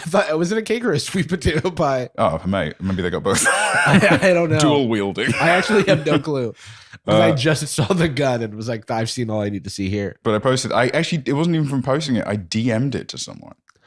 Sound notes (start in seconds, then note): 5.2 laughs